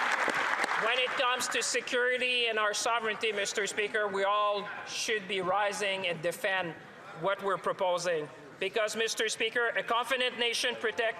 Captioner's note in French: applaudissements